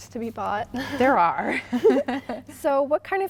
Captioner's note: chuckling